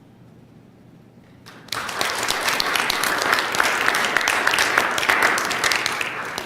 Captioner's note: applause